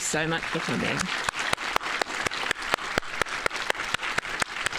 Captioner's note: audience Applauding